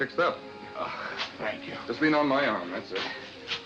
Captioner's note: groaning